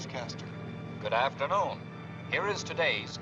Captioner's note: Barry on radio